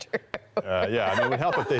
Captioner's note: laughter